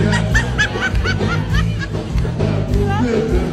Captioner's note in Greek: γέλια